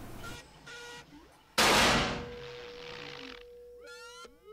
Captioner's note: gunshot